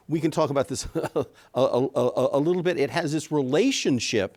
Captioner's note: chuckles